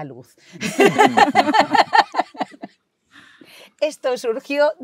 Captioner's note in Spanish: risas